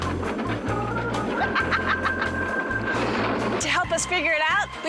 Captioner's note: laughing